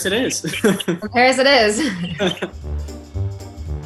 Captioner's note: laughs; playful, cheery music